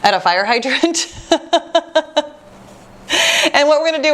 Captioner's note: laughs